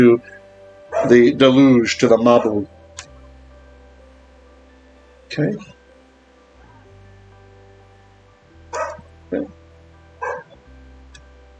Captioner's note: Hebrew